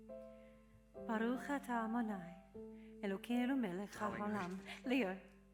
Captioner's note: praying in Hebrew